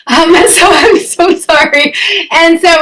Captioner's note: chuckles